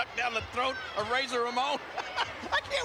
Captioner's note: chuckling